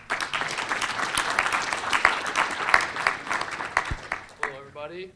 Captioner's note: audience applauding